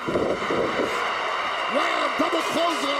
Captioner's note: crowd cheering